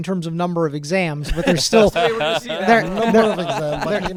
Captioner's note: laughs